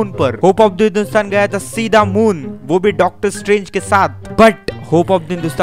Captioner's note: sounds funny